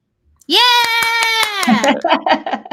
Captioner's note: laughing